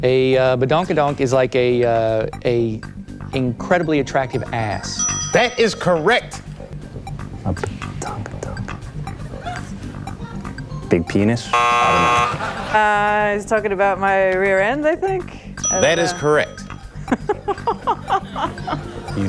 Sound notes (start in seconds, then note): 11.5 buzzer blares; 17.0 contestant laughs